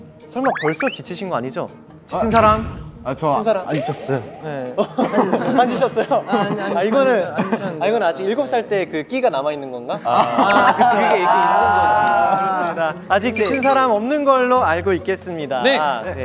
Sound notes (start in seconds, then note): 4.3 stumble